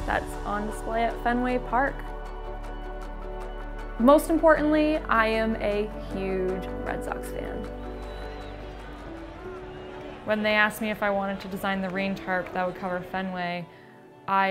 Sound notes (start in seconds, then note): 2.3 gentle music; 7.1 crowd cheering